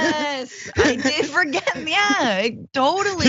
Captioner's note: laugh